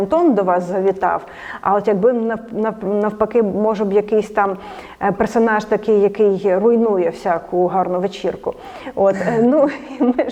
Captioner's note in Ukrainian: Сміються